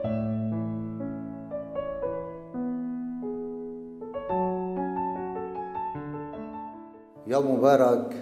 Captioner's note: via Zoom app